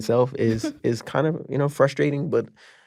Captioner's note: chuckling